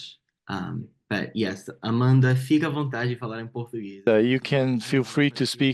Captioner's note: speaks Portuguese